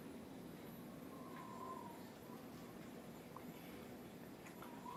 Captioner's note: wind whistling outside